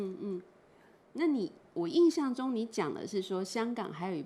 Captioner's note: Mandarin